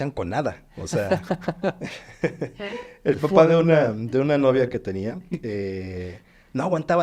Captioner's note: laughs